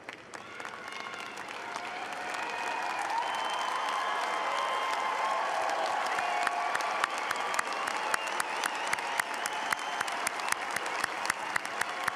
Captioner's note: applause